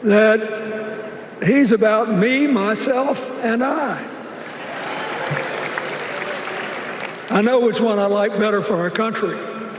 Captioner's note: cheers and applause